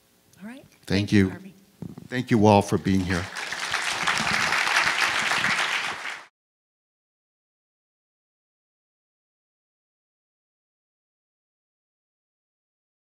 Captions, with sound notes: - All right. - Thank you. - Thank you, Harvey. - Thank you all for being here. (crowd applauses)